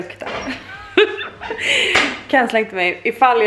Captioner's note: laughter